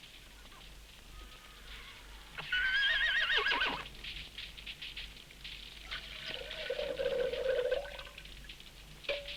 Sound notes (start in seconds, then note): 2.2 horses whinnying; 6.2 coffee whooshing; 9.1 fire crackling